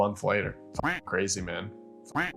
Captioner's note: duck quacking